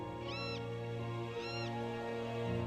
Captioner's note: bird calling; light melodic orchestral music